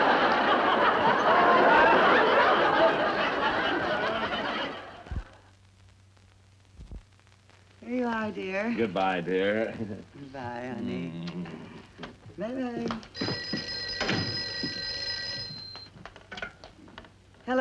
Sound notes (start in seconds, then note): 11.6 kisses; 13.1 phone ringing